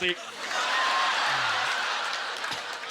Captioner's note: audience laughter